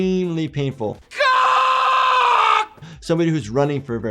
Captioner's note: man screams